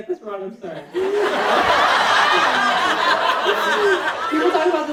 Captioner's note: audience laughing